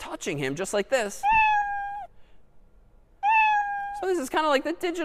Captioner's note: two meows